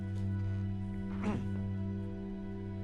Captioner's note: clears throat